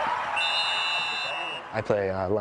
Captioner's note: crowd cheering; whistle blowing